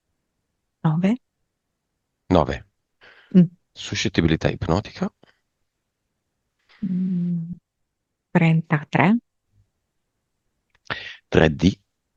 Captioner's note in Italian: schiarire la voce